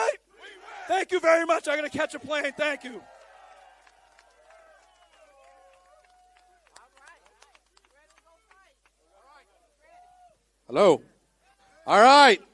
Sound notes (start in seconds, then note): 6.1 applause